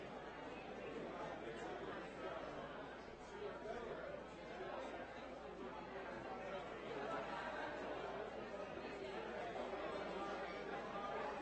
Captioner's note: people chattering